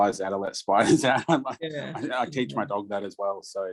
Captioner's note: laughing